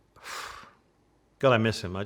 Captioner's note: sighing